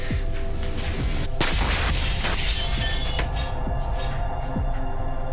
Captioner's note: mirror breaking; dramatic music